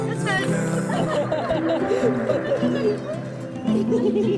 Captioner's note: group laughing; soft acoustic guitar music